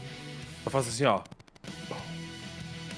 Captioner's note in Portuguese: boom